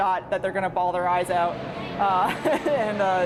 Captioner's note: laughing